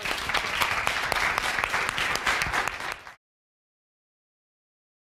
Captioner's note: applause